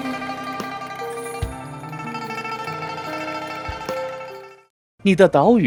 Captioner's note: bell Ringing